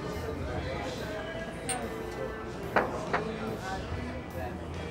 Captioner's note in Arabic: طقطقة النظارات ثم اضغط على الطاولة